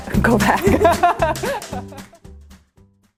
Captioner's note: laughing